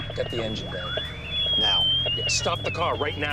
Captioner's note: alarm